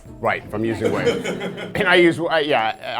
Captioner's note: laughter